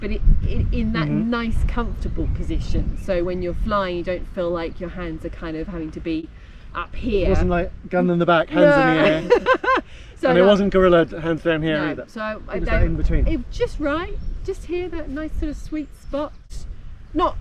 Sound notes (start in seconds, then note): 8.1 laughs